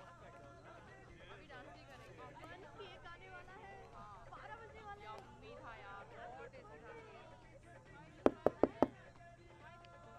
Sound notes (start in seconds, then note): 8.2 Knocks